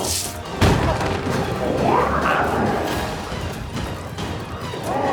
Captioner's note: glowzies growling; dramatic music continues